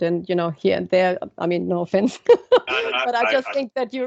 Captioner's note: laughs